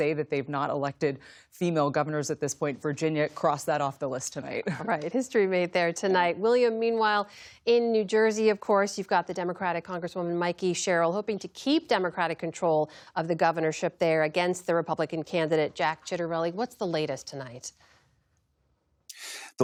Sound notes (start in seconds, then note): 4.6 laughter